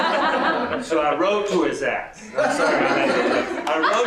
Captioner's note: laughter; laughter